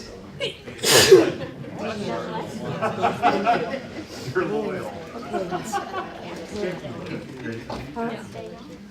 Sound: laughs

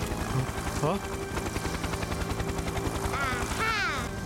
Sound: humming

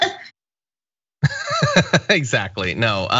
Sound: laugh

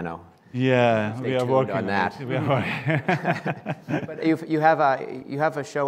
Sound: laughs

